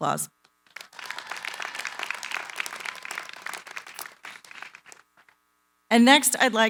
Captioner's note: applause